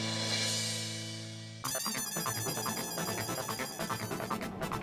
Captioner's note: engine whirring